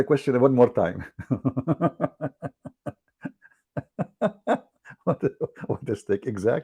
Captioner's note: Ketawa